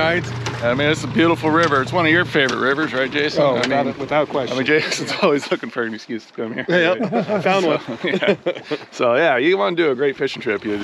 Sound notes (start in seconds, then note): 6.5 chuckling; 10.0 laughing